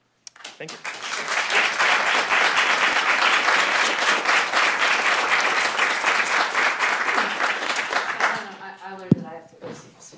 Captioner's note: applause